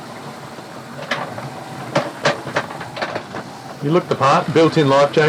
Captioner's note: tugging noise